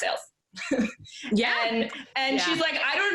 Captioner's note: laughs